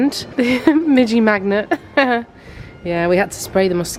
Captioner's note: chuckling